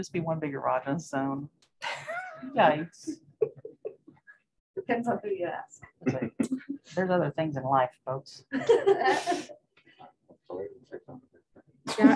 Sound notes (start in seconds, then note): 3.4 laughs; 8.5 laughter